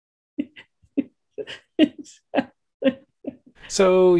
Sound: laughing

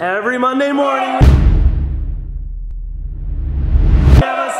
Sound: cheering

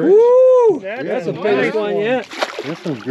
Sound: fish splashing

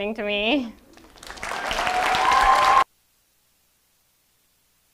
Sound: audience applauding

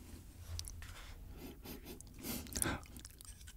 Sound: sniff sniff

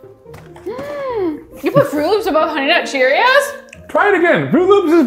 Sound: gasps

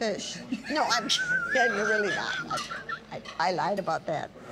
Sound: laughing

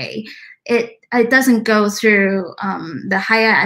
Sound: speaks mandarin

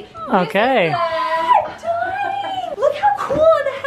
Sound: screams

